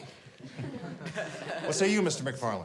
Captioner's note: class chuckles